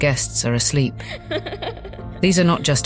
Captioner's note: child giggling